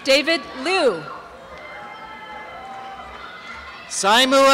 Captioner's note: applause and cheering